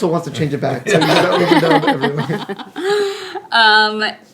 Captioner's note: laughing